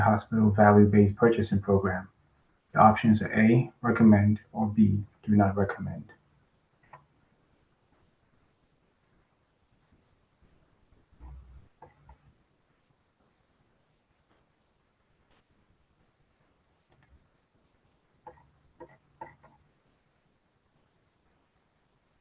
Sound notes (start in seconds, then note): 7.0 pause